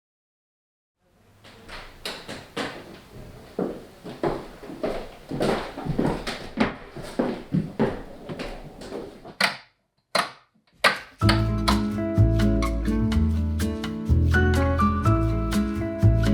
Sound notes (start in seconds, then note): 4.4 footsteps clanging; 13.0 light upbeat music